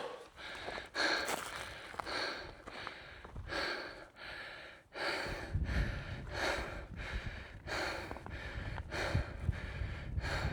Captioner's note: heavy breathing